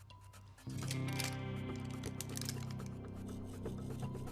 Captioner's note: gun clicking